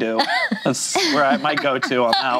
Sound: laughing

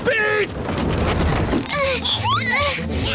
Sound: grunting

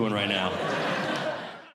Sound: audience Laughing

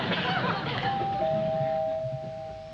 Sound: doorbell

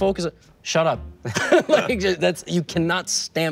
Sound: both chuckles

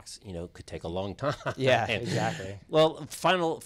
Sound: laughs

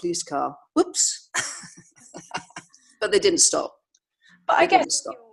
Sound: laughs

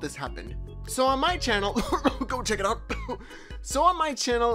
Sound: sarcastic coughing; sarcastic cough

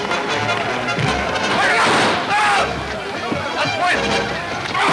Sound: men yelling simultaneously

